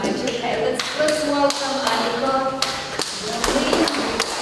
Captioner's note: clapping